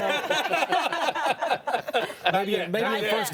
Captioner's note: group laughs